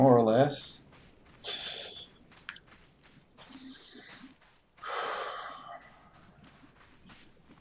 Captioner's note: laughs softly and sighs